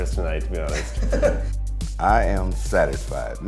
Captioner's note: laughs